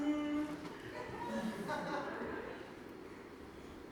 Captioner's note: audience laughs